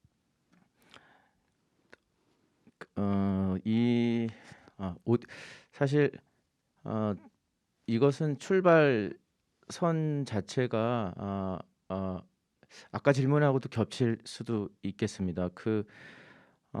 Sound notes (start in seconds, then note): 4.0 speaking in Korean